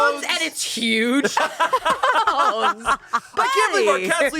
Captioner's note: everyone laughs